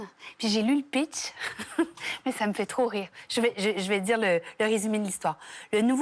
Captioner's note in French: rires